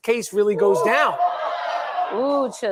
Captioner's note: crowd chattering